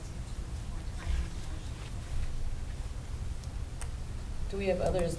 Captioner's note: speaking off microphone